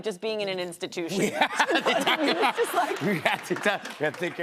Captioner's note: laughter